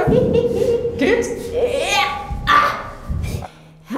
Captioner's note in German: ächzt